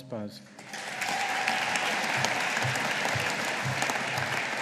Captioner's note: audience applauding